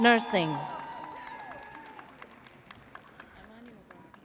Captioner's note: audience cheers